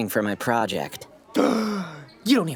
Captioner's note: gasping